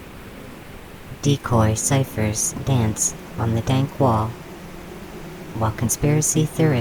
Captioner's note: the swarm hums